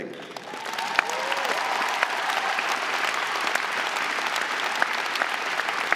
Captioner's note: audience cheering and applauding